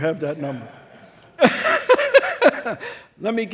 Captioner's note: all laughing